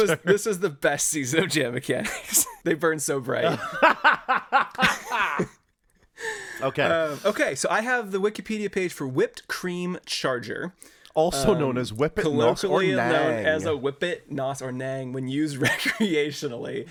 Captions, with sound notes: This was the best season of Jam Mechanics. They burned so bright. (laughing) Okay. Okay, so I have the Wikipedia page for Whipped Cream Charger. Also known as Whippit, NOS, or Nang. Colloquially known as a Whippit, NOS, or Nang when used recreationally.